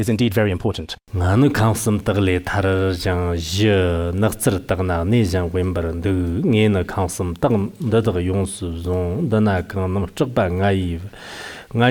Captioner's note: giving oral transmission in Tibetan